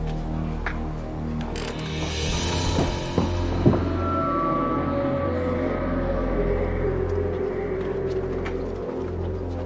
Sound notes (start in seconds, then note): 1.0 creak